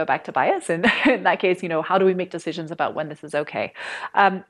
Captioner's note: laughter